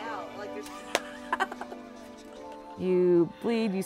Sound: cackles

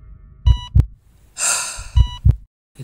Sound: sigh

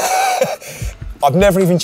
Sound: chuckling

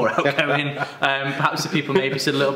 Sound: laughs

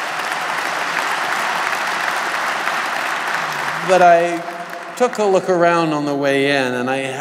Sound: applause

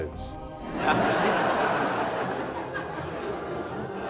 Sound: crowd laughing

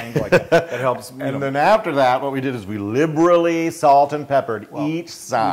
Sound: laugh

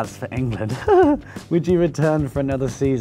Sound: laughs

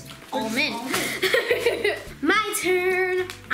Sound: laughing

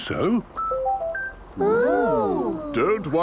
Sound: car chiming

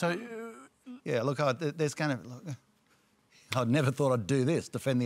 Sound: stammers

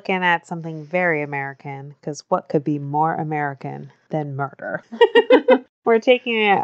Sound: laughs

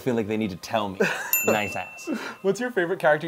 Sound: bell chimes; laughing

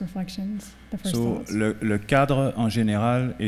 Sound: speaking french

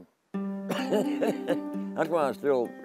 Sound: laughing

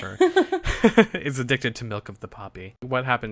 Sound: laughs

